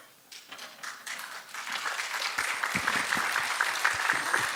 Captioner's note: applause